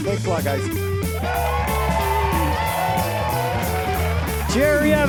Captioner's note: audience cheering and applauding